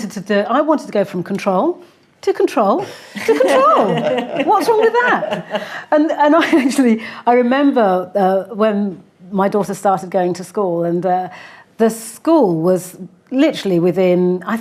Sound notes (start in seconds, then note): 3.1 laughing